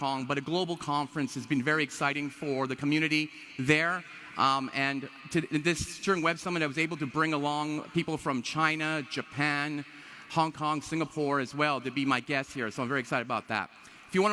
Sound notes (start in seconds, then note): none